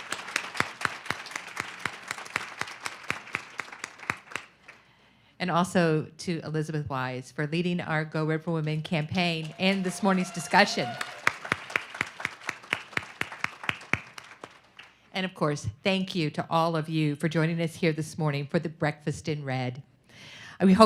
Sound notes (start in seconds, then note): 0.0 everyone clapping; 11.4 everyone clapping